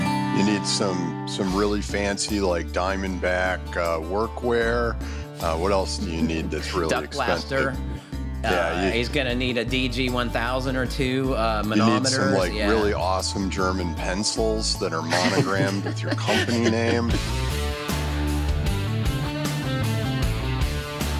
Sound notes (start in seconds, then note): 15.0 laughter